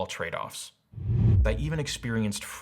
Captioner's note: whooshing